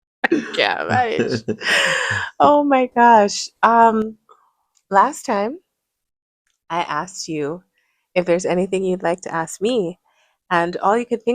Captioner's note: laughter; gasps